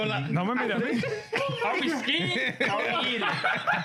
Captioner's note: laughing; speaking In Foreign Language